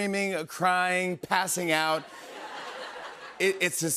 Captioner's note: laughter